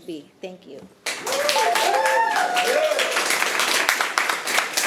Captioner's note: audience applauding